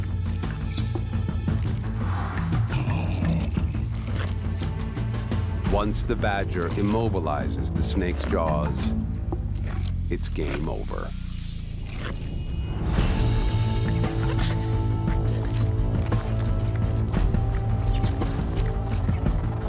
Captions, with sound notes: Once the badger immobilizes the snake's jaws it's game over. (light dramatic music) (mouth crunching)